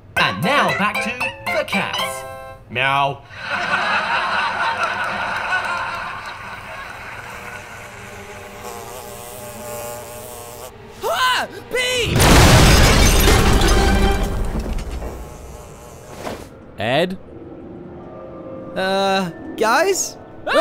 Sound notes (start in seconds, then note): 3.4 canned laughter; 12.1 explosion